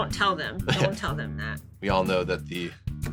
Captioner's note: chuckles